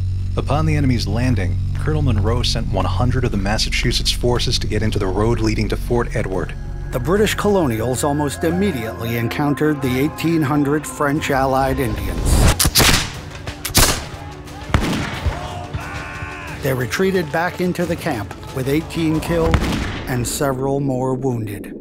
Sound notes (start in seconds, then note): 12.4 gunshots firing